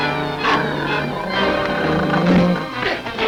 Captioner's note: growling